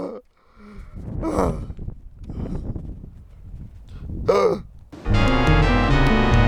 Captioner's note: sighs and gasps